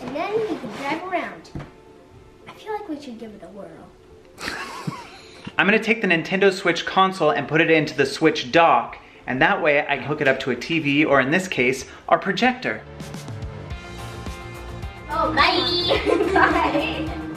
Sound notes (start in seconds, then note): 4.4 laugh